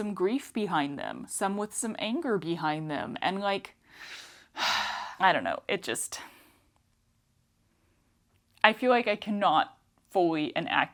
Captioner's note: sigh